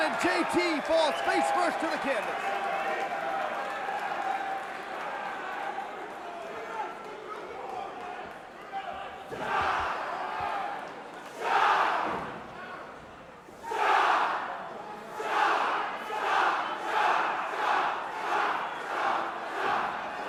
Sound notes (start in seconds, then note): 3.5 crowd cheering; 7.1 crowd chatter; 10.2 crowd cheering